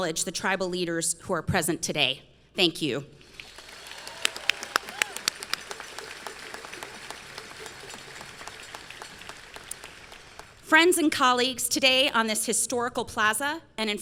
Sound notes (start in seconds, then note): 3.3 audience clapping